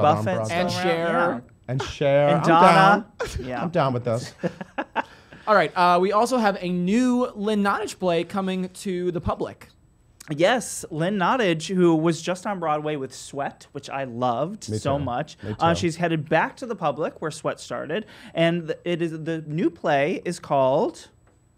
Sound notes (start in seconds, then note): 6.1 laughing